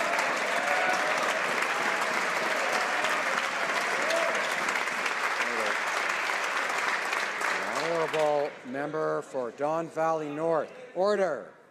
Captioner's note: some Applause